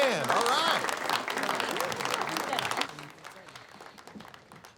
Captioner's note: students clapping